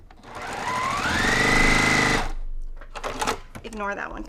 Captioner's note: machine sewing